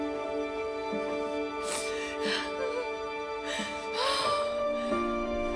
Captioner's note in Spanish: Sollozos